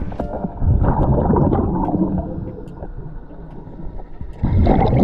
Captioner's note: water gurgling continues